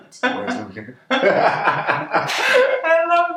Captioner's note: both laugh